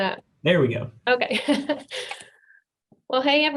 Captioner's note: laughs